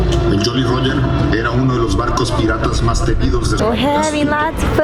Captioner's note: narrator speaking in Spanish